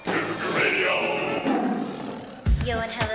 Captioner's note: roar